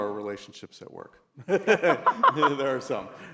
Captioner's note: laughing